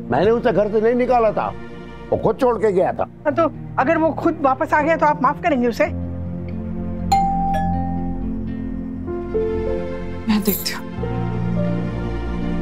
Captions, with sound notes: I didn't throw him out of the house, he left by himself. Will you forgive him if he comes back by himself? [doorbell ringing] I'll check.